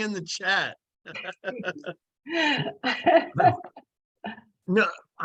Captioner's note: laughs